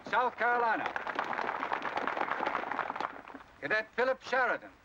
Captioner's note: crowd applause